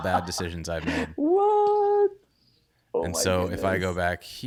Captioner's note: laughs